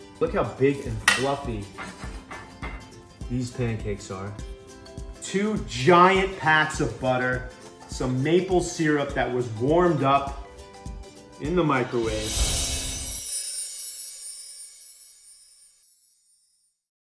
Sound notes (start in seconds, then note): 12.2 twinkles